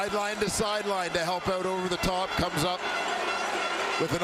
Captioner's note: crowd Noise